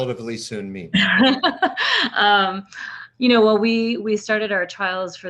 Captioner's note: laughs